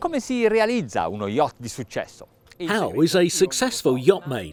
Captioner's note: man speaks in foreign language